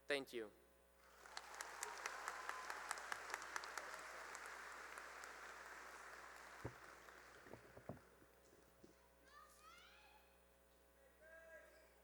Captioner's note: cheering and applause